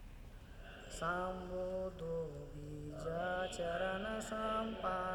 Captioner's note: man chanting